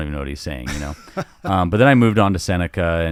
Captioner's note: laughing amusingly